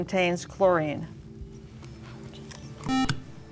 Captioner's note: beep